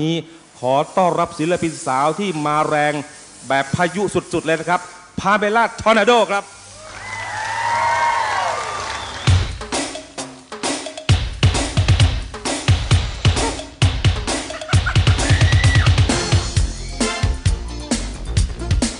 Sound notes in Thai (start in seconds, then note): 8.0 ปรบมือ